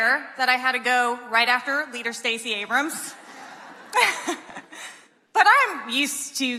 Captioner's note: laughs